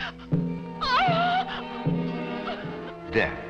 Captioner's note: gasps; Mrs. Wilson sobs